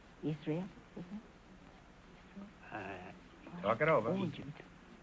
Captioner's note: whispering